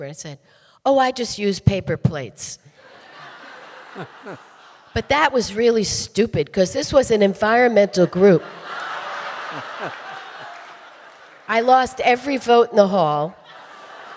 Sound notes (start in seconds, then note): 8.0 audience laughing